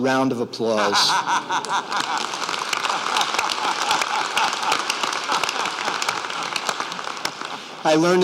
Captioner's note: applause